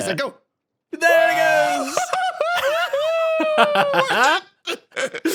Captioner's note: laughs